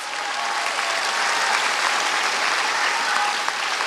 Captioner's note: applause